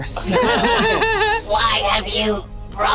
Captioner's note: group laughs